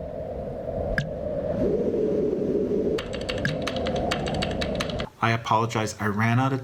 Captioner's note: wind and keyboard sounds